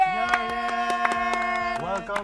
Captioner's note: clapping